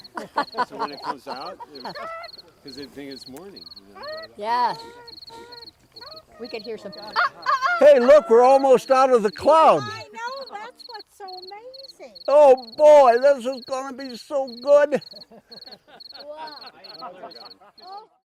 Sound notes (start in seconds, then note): 0.0 laughter; 6.4 rooster crowing; 14.9 laughter